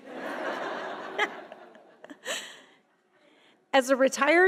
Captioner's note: audience laughing